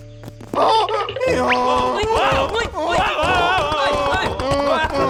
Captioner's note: frantic braying